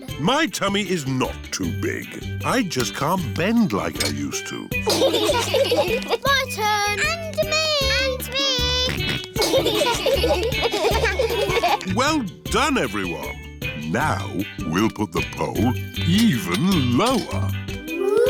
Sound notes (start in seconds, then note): 4.8 laughter; 8.9 george snorts; 9.3 laughter